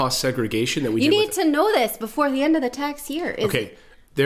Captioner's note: excited